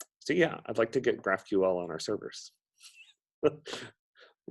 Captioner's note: laughs